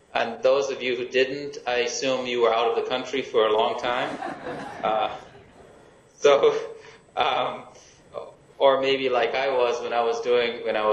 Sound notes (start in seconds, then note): 3.8 laughing